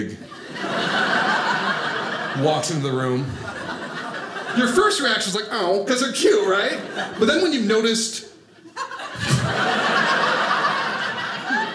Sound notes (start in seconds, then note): 0.2 audience laughing; 8.6 audience laughing